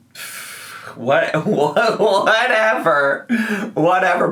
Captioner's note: laughs